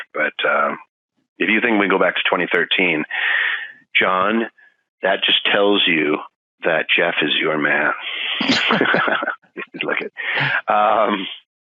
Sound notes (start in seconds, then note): 8.3 laughing